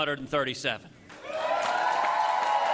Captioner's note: applause